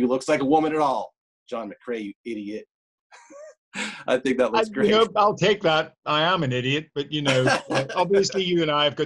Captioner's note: all laugh